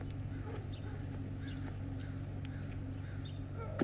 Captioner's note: dog barking